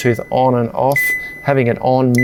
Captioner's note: fridge beeps